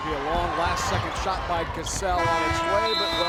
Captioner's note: buzzer rings